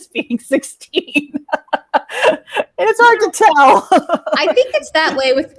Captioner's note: laughs